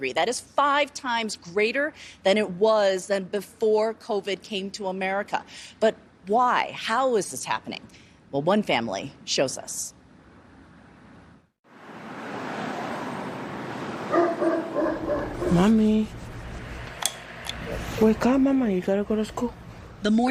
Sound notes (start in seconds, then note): 14.1 dog barking